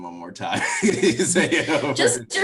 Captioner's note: laughs loudly